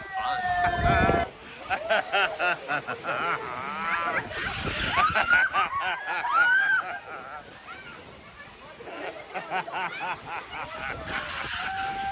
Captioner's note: laughing & laughing and laughing